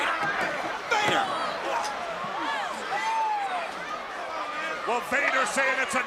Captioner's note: crowd cheering